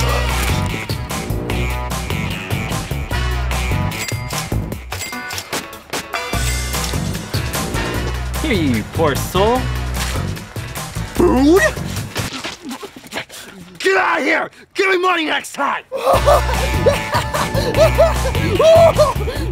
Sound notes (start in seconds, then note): 4.1 chuching; 15.9 laughing